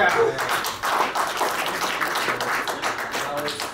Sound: clapping

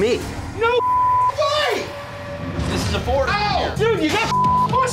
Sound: beep

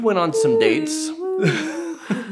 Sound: imitating siren; laughter

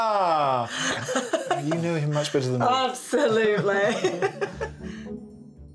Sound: laughing

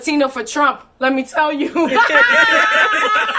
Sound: laughs

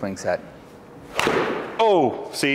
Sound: ball thuds

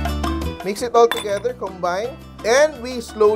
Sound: clang

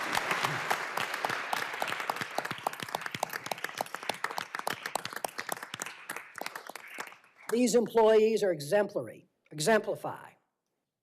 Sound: applause

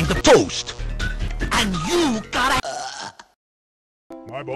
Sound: burps

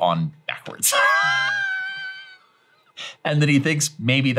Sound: chuckling

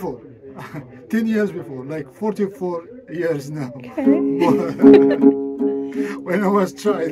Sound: laughing

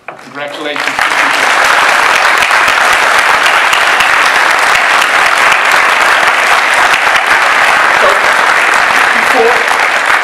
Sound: audience bursts into applause

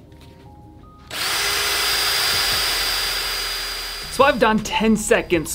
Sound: drill whirring

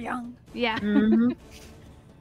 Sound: laughs

